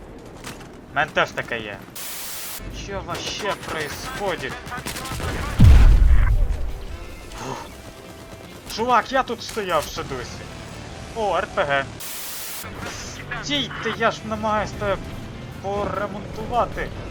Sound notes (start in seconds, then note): 5.2 badabooom!!!